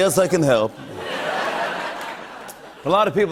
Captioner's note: laughter